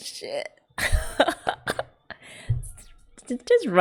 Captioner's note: laughs